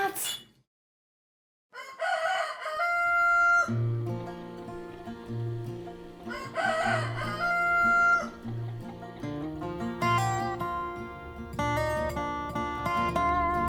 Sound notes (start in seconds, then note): 1.7 rooster crowing; 9.6 peaceful music